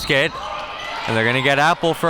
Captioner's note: whistle blows